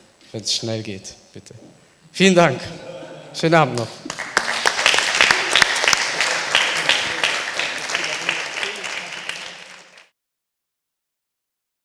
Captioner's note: applause